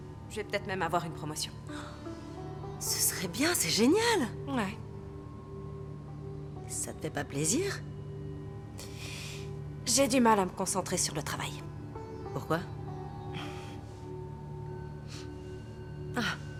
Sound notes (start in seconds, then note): 13.4 grunts